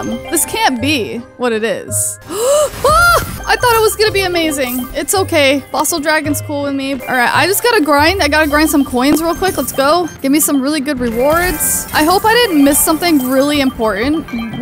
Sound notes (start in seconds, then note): 2.2 gasps